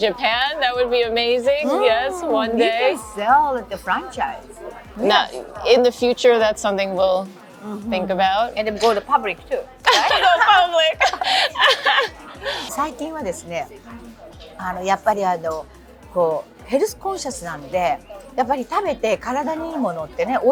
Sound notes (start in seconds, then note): 9.8 laughter